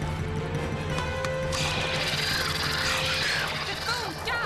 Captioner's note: birds shrieking